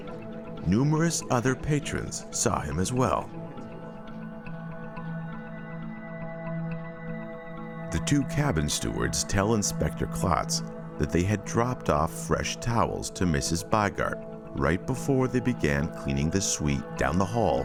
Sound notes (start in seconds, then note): none